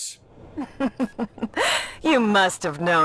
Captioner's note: Ripper laughs